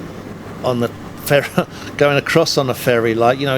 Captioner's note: chuckles